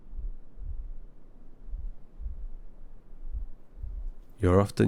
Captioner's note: slow heart beating